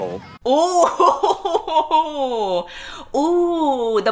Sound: laughs

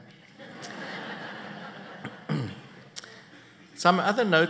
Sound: laughter

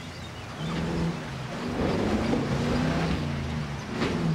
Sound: engine revs

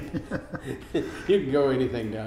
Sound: laughing

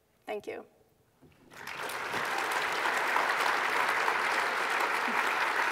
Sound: applause

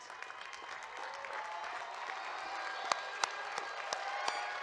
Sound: audience claps and cheers

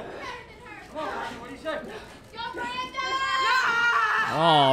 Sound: crowd cheering

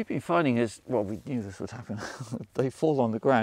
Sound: chuckles

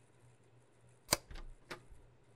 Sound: door Click

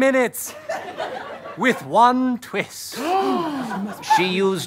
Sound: gasps

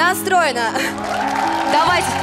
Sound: applause

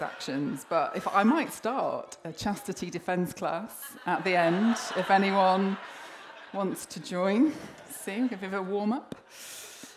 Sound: laughter

